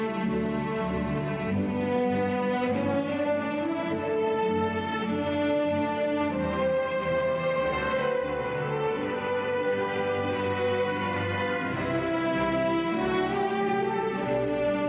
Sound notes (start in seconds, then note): none